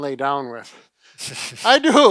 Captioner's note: laughing